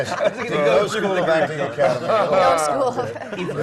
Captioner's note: laugh